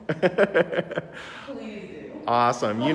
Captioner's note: laughing